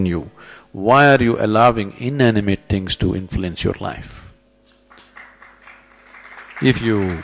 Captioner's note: applause